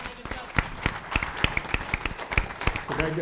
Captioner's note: applause